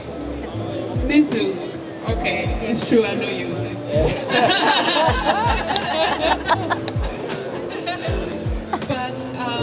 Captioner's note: laughing